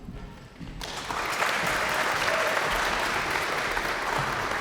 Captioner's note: audience applauds